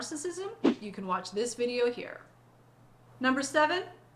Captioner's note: air whooshing